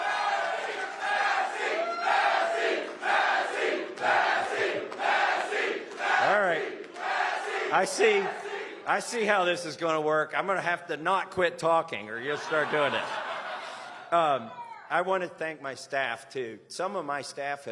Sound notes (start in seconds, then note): 0.0 cheers; 5.5 chanting "massie"